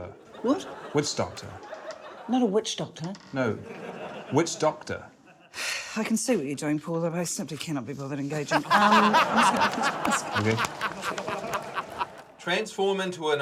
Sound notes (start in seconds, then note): 5.8 sighs; 10.3 laughter